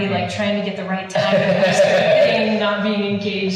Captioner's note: laughing